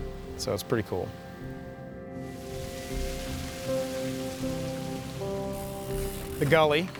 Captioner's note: water rushes